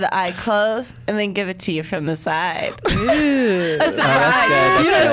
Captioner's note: laughs